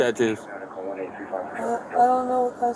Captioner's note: radio chatter